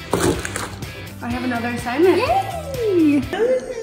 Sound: gasps

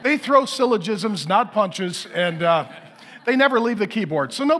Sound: congregation laughing

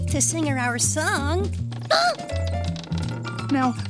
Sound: yelp of alarm

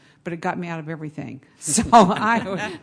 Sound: laughter

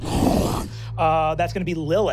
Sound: deep growling

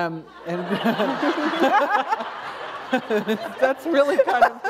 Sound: laughter

